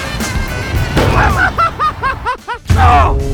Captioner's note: laughs